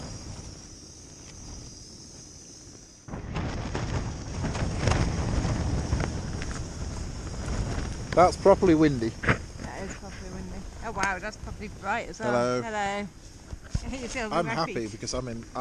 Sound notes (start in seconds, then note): 1.4 wind noise; 3.2 more wind noise